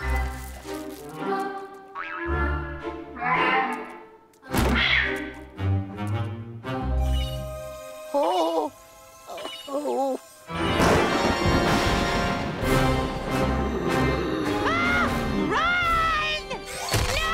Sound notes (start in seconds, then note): 0.2 cat vocalizing; 0.2 mysterious music; 10.5 suspenseful music; 10.6 lighting crashing; 13.3 monster roaring; 14.4 screaming